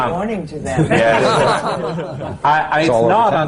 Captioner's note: laughter